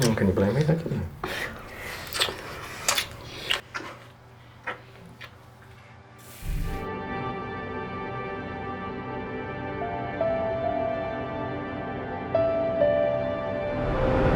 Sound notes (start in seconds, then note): 1.2 kissing; 6.2 shower running; 11.0 dark melancholy music